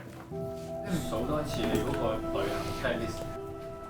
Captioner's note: Cantonese